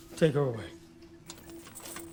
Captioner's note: none